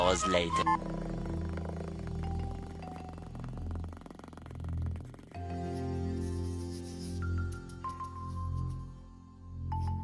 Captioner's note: Sped up siv noises